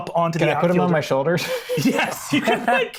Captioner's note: laughs